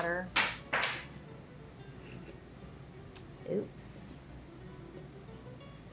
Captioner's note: object clatters; gentle instrumental music